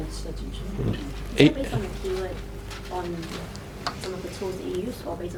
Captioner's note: audience talking